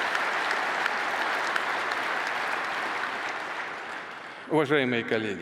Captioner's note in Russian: Аплодисменты